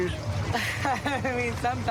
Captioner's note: laughs